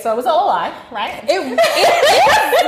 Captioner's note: laughing